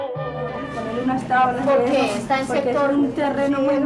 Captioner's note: Spanish spoken audio